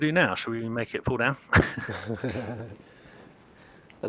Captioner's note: laughter